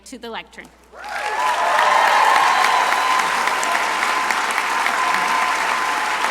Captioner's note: crowd cheering and applauding